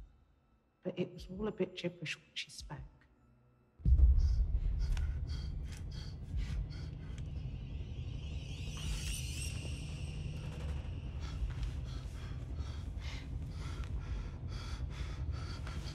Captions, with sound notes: But it was a bit gibberish what she spoke. (ominous music) (heavy breathing)